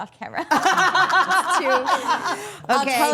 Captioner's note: all laughing